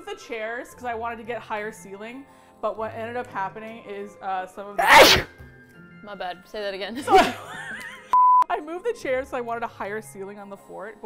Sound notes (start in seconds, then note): 4.8 sneezes; 7.0 both laugh